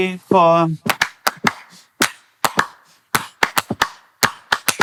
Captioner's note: group clapping